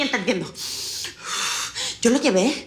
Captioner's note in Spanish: Sonido al aspirar y exhalar